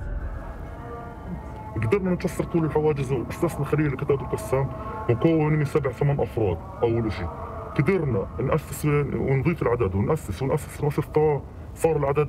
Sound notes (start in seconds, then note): 1.3 speaking Arabic